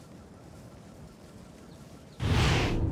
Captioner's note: whooshing of air